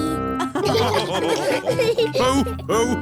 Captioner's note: all laughing